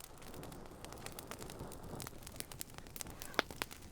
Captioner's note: fire burning